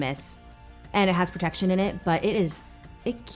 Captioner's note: bell pings